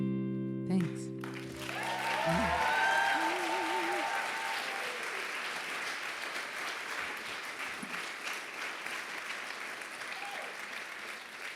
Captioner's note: applause